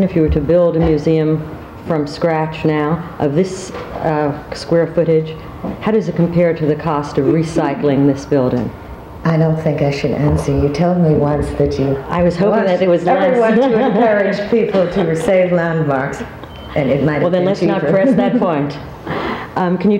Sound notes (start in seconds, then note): 13.1 laughs